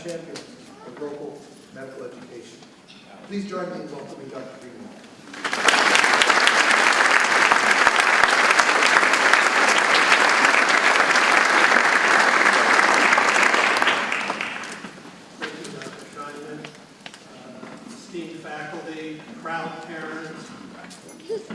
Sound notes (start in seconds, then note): 5.9 audience clapping